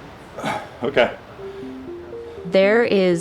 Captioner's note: sighs